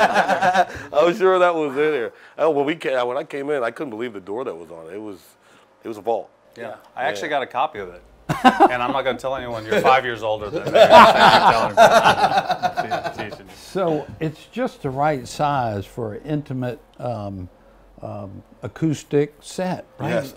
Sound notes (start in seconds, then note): 0.0 all laughing; 8.3 mayor laughing; 10.4 all laughing